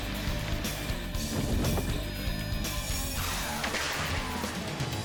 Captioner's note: parachute rumbles